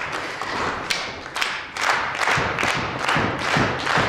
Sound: clapping

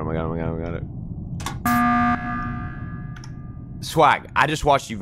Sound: emergency buzzer

